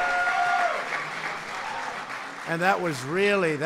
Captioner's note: applause